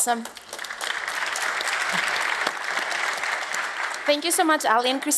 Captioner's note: applause